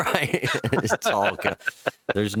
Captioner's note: laughing